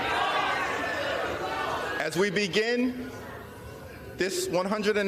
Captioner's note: crowd chanting